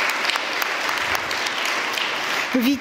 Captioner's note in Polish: oklaski